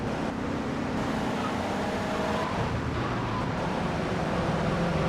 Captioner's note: engine roaring